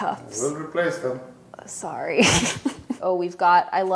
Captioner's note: laughs